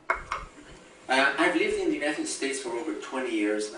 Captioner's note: voiceover